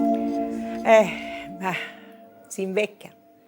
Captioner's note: sighs